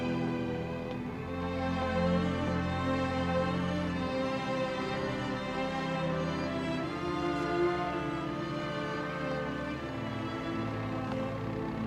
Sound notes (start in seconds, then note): none